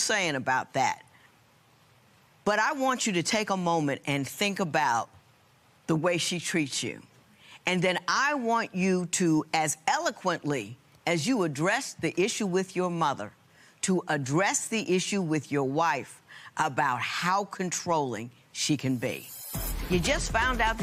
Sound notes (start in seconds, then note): none